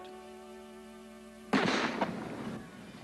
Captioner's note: gunshot